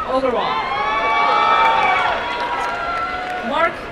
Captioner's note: applause and cheering